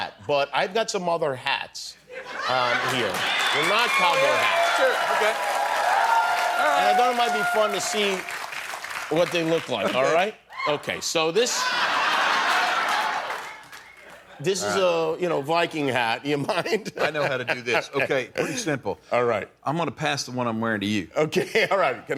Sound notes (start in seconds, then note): 5.6 cheering; 11.5 laughter; 16.5 laughs